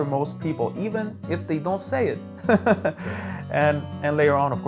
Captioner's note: laughs